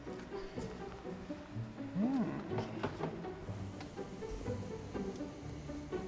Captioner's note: chuckles